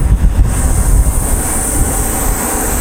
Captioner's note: flame hisses